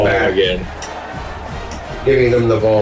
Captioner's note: crowd Noises